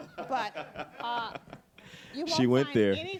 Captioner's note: Kevin laughing